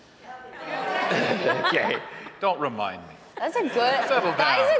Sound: audience laughing

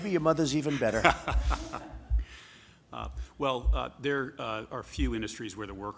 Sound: laughs

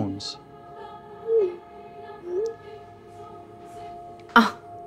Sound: phone texts sounding

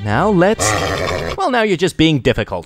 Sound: horse growls

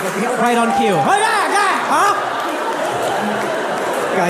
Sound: yelling

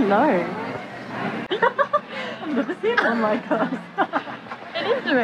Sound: laughs

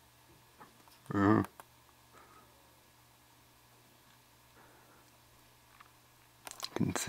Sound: idunno noise

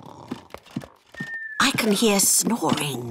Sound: snoring

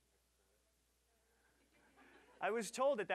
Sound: audience laughing

